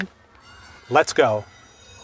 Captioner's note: bell rings